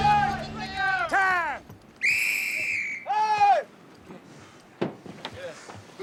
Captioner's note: whistle blows